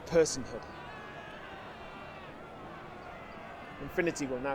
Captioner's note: distant shouting, crowd clamoring